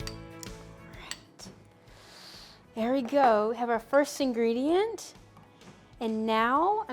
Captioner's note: whispers